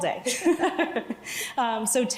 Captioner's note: both laughing